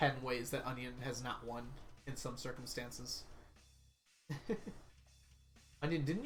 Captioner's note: laughs